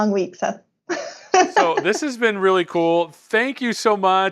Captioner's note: laughs